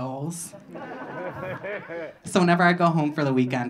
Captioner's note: audience laughing